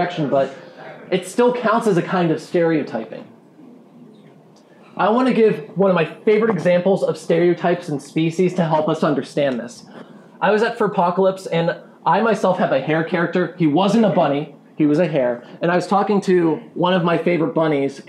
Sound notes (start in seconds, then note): none